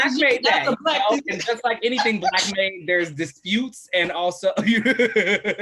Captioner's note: laughter